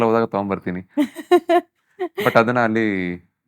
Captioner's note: laughs